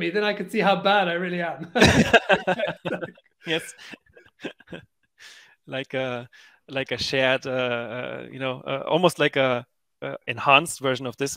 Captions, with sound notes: then I could see how bad I really am. (both laughing) - Yes. Like, a shared, you know, almost like a enhanced version